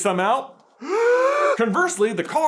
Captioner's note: deep inhale